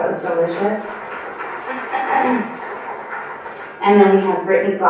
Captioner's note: applause